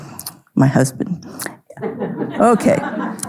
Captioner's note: audience laughing